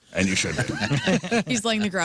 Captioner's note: laughing